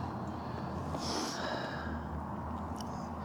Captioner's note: sniffles